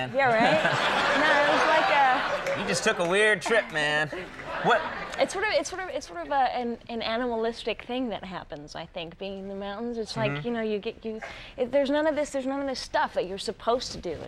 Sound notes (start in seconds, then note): 0.2 audience laughs